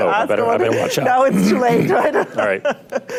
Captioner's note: laughs